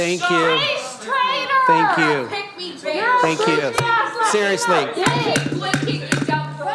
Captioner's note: crowd Noise; shouting